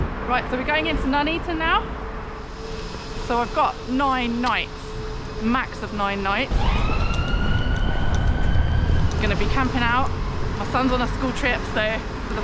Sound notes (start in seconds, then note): 6.9 police siren